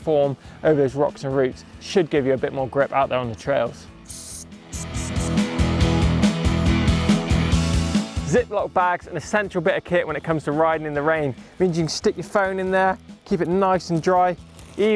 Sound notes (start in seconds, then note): 4.7 air releasing